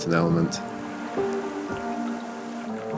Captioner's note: waves lapping